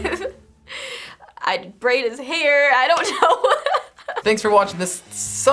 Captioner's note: giggles; laughing